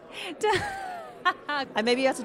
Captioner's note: laughs